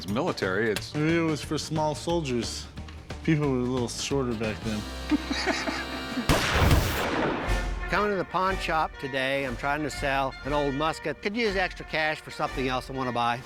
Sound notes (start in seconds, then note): 5.0 Rick laughs